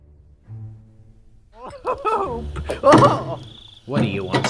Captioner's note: Stone Laughing